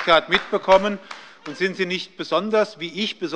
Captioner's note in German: Beifall bei der SPD